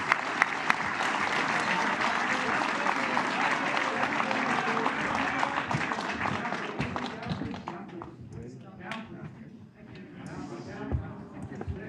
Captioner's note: applause